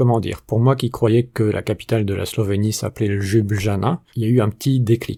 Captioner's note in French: en prononçant les "j" à la française